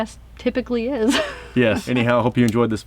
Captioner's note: laughs